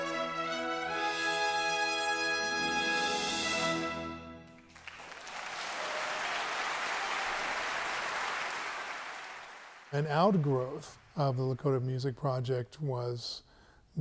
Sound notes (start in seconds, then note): 4.5 audience clapping